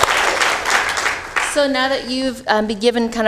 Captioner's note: applause